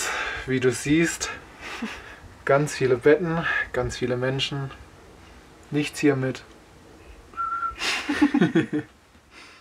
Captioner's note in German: pfeifen